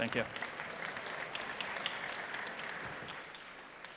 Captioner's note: applause